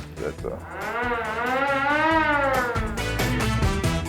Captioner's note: siren blaring; upbeat music